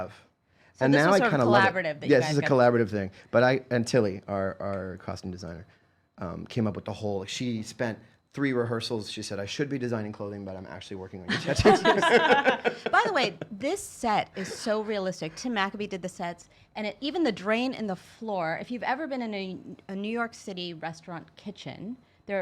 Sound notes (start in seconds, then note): 11.3 laughing